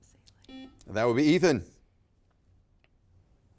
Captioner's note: buzzer beeps